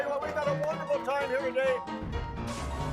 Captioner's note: logo sizzling